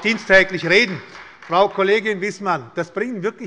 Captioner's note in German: Beifall bei Abgeordneten der SPD